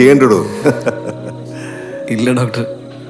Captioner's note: doctor laughing